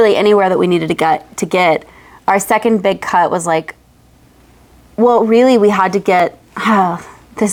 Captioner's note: sigh